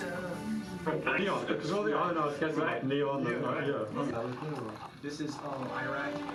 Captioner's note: team member speaking in foreign language